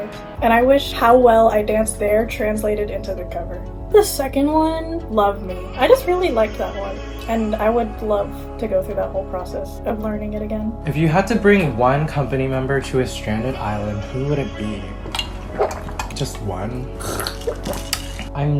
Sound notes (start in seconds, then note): 16.6 more aggressive sipping; 16.8 aggressive sipping